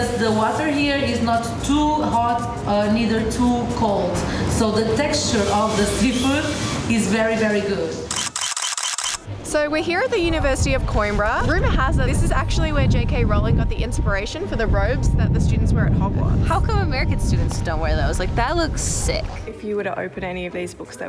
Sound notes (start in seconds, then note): 8.1 camera shutter clicking